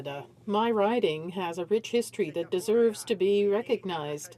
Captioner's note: speaking in French